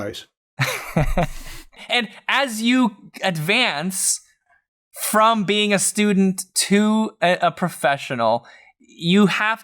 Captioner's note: chuckles